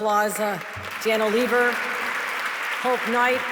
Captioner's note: audience clapping